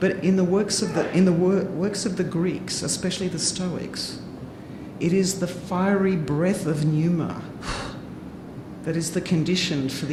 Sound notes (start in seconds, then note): none